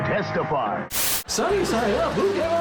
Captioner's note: static